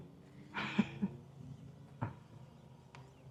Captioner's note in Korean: 웃음